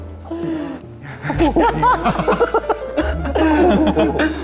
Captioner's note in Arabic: بهدوء; الغرفة مليئة بالضحك; بهدوء